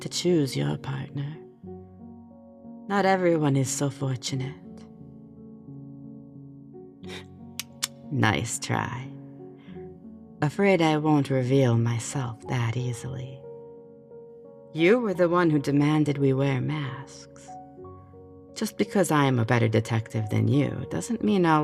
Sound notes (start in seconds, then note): 7.5 tsking-sound